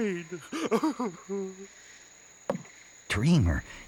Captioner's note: Dreamer sobs